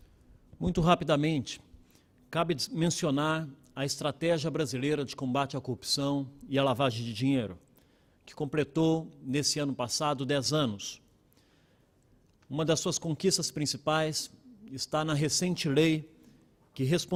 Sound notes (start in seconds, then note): 0.1 speaking Portugese